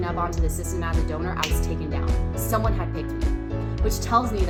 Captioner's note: snap